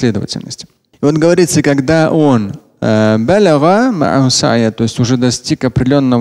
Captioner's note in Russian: говорит на арабском